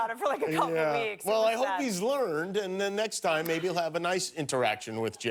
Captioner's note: laughter